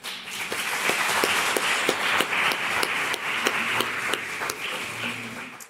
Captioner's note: applause